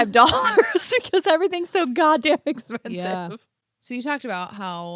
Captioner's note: laughs